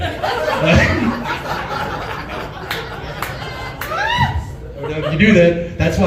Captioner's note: laughs